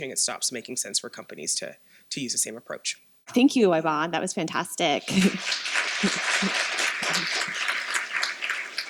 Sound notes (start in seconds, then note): 5.1 applause